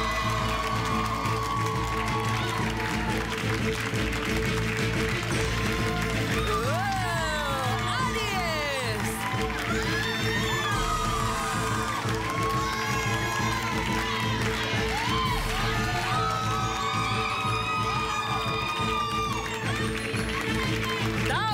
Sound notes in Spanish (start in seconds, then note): 0.2 Aplausos; 10.0 Gritos y exclamaciones; 11.9 Aplausos